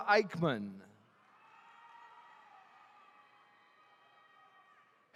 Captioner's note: attendees cheering